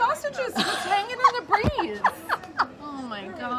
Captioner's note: laughs